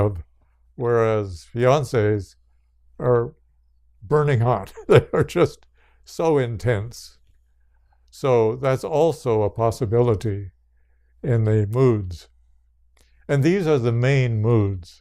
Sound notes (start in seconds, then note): 4.6 laughs